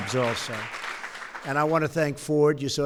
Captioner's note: applause